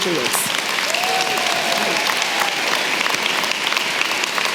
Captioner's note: applause